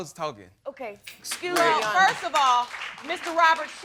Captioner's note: audience clapping